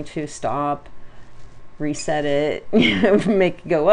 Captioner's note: laughs